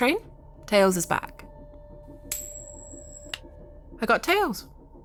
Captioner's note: coin flip